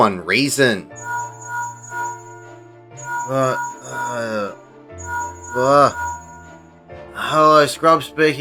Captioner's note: linkshell ringing